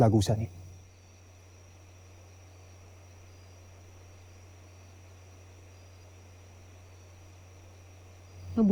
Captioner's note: crickets chirping in distance